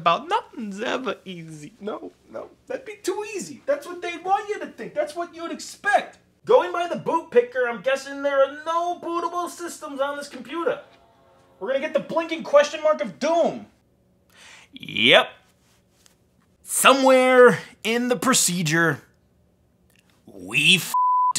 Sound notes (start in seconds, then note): 10.5 Apple gong; 20.9 beep